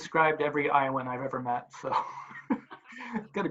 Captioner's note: laughs